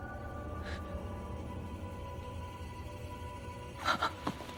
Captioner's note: Veronica gasps; Veronica sobbing